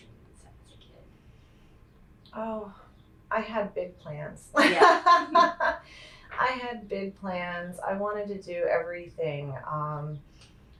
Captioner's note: laughs